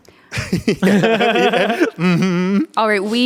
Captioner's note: everyone laughs